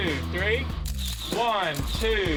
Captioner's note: camera clicking